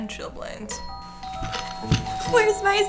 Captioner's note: doorbell chimes three times